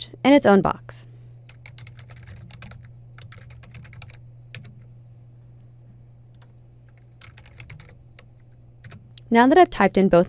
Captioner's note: typing